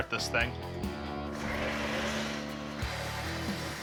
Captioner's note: grinding